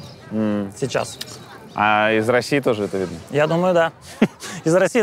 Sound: chuckles

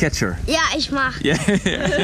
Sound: speaking Romanian; laughing

